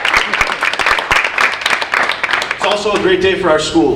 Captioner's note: audience applauding